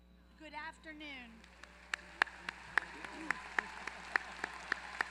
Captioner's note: applause